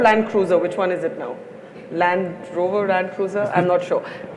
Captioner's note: Sadhguru laughs